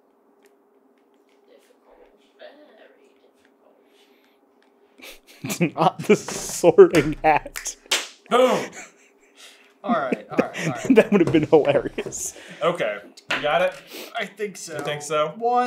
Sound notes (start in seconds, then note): 5.0 laughing